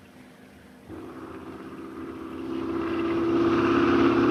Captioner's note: Phantom buzzing